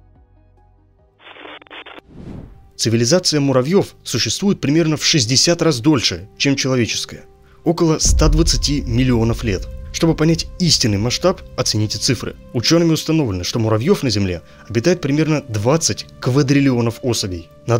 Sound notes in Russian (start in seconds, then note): 1.2 Звук заставки: помехи